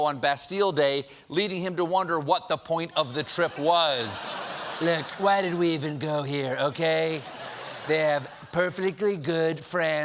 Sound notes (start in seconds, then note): 5.7 laughter